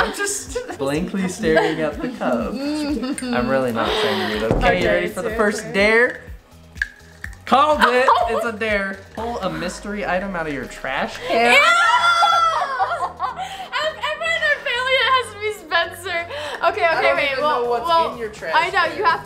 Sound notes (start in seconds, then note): 2.9 giggles; 11.5 laughs